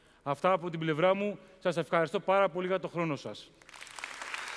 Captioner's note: Χειροκρότημα